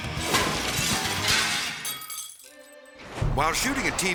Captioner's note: metal crashes; glass shattering